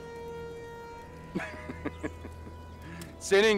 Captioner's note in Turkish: Ural gülme sesi